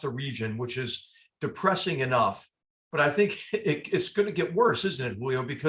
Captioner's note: laugh